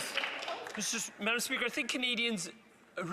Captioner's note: some Applause